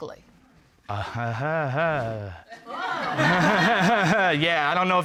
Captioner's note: audience exclaims, laughs; laughing sarcastically